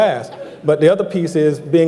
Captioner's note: laughing